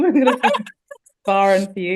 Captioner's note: group laughs